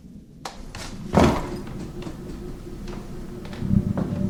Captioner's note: object thuds; footsteps thudding